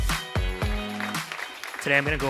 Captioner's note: audience applauding